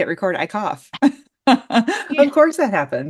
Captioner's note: laughs